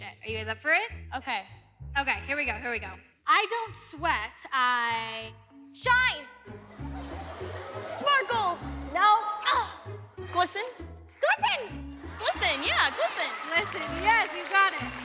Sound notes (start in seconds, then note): 6.6 audience laughs